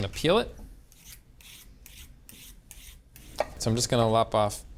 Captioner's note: peeler scraping